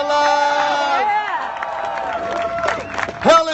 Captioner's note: cheers and applause